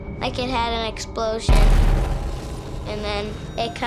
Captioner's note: booming